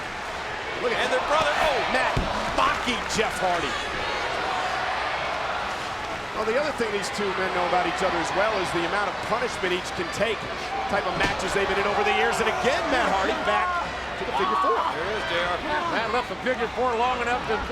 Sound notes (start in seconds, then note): 5.1 audience cheering